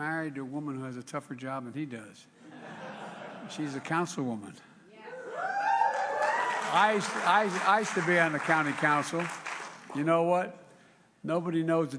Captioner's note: applause